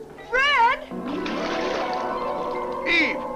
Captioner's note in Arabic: موسيقى مبهجة ومبهجة; رش الماء